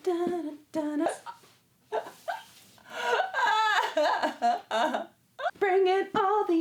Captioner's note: uncontrollable pope-like sobbing